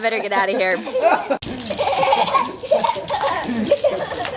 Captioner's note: laughing